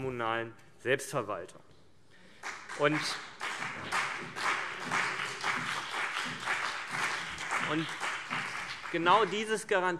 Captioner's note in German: Beifall CDU und BÜNDNIS 90/DIE GRÜNEN